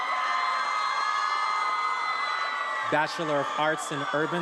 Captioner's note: attendees applauding and cheering